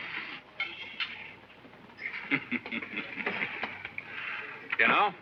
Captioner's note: Charles laughs